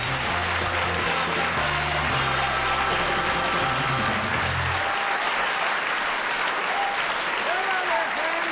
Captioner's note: applause